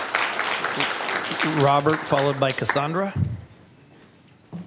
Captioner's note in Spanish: Aplausos